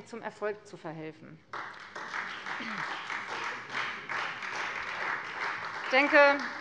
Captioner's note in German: Beifall Freie Demokraten